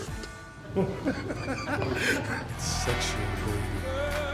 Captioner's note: Mark laughs